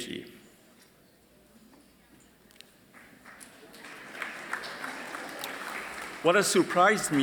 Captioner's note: light Applause